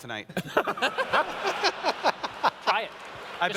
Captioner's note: laughter